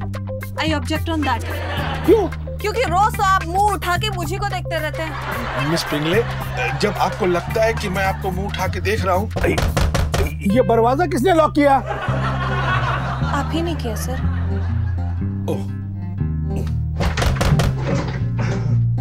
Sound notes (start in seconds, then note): 9.3 door knock; 17.0 door knock